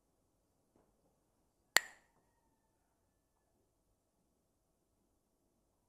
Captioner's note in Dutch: klakt met stokjes